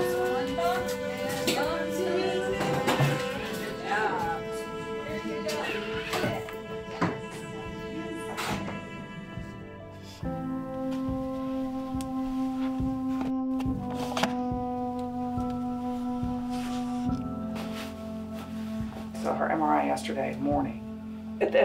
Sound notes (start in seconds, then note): 2.5 equipment clattering; 8.2 door slamming